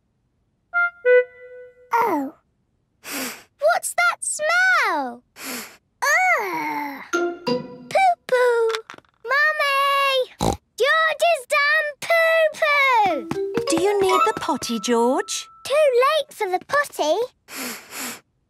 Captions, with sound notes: - Oh. (sniffs) - What's that smell?! (sniffs) - Ergh! - Poo-poo. - Mummy! (snorts) George has done poo-poo! - Do you need the potty, George? - Too late for the potty! (sniffs) - Oh, yes.